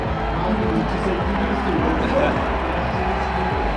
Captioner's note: crowd cheering